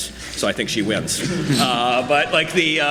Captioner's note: audience laughs